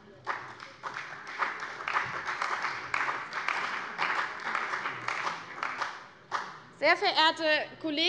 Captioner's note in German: Beifall bei der CDU und dem BÜNDNIS 90/DIE GRÜNEN